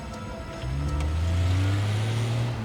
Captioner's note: pick-up accelerates